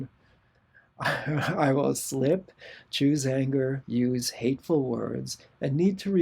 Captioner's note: laughter